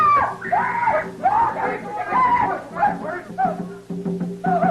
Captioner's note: general panic